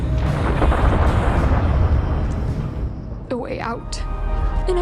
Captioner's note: thunder cracking